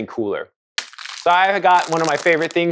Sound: paper rustling

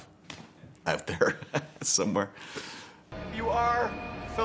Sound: laughs

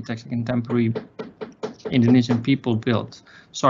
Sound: knocking on door

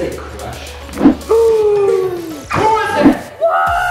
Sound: gasps

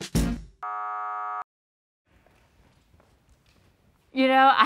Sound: buzzer sounding

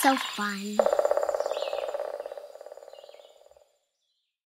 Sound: woodpecker tapping

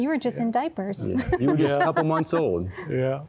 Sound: giggling

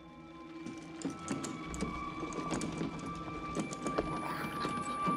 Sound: rattling

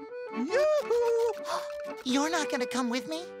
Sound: gasping

